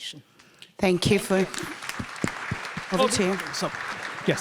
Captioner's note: audience applauding